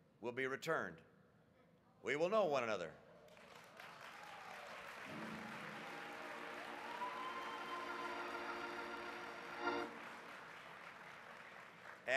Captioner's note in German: Applaus